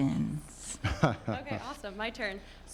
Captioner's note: laughs